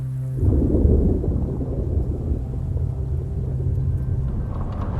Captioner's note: stormy water sounds